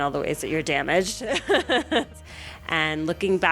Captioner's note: laughter